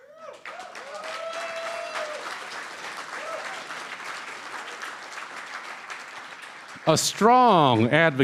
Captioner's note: cheering & Applause